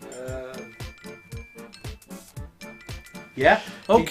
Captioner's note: producer murmurs uncertainly